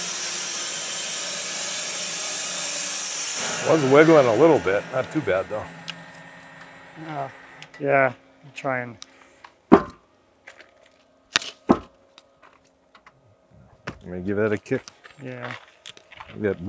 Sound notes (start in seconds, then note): 0.0 saw whirring